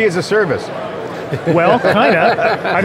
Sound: laughter

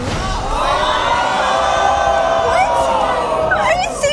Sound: audience screaming

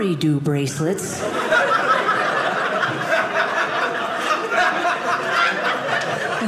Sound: audience laughing

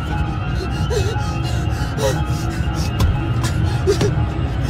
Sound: frightening music; ragged breathing

